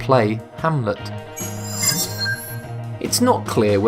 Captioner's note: sharp chiming